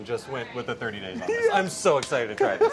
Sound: giggles

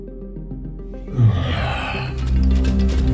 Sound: grunts

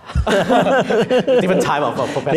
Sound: laughing

